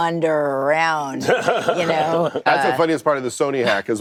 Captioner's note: laughter